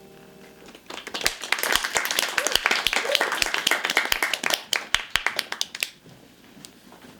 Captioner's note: applause